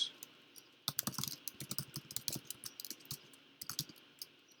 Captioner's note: keyboard clicks